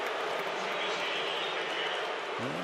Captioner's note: crowd booing